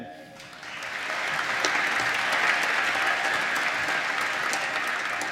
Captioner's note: applause